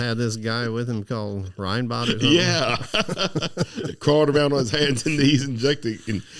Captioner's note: laughing